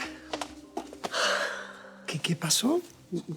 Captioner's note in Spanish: exhala